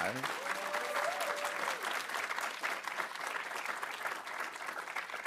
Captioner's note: audience applauding